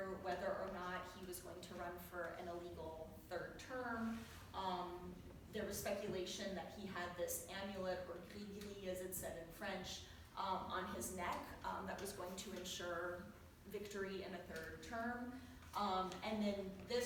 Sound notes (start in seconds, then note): 8.2 french